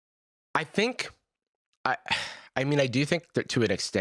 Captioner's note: sighs